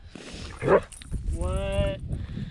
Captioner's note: Laika barks